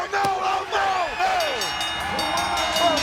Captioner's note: bell ringing